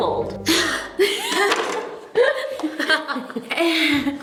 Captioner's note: girls laughing